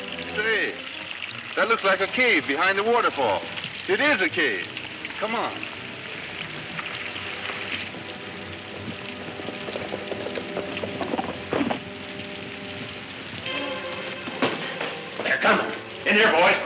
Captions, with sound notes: Say, that looks like a cave behind the waterfall. It is a cave, come on. (hooves thudding) (suspenseful music) - They're comin'.